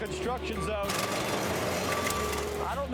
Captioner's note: tractor chain clanging